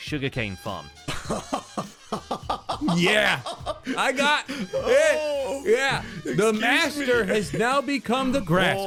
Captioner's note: maniacal laughter